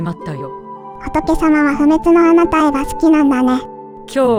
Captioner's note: laughs